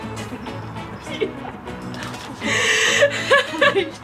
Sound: Colleen laughs

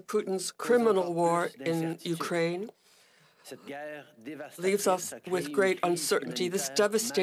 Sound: speaking French

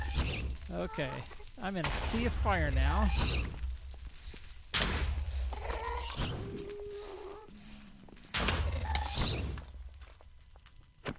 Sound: pigman grunts

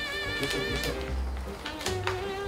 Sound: rustle rustle

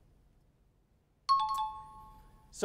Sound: timer bell

